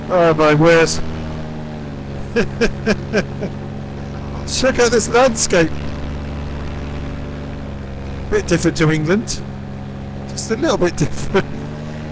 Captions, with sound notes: Oh my word. (laughs) Check out this landscape. Bit different to England. Just a little bit different.